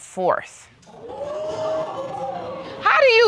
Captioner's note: audience gasps